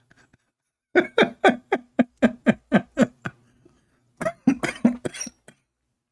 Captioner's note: Ketawa